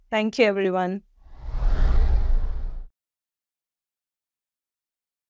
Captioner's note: sound effect